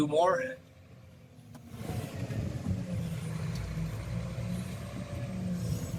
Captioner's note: engine noise